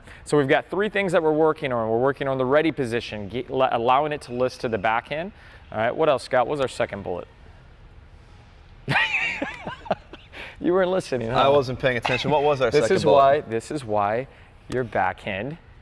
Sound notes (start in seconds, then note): 9.2 laughs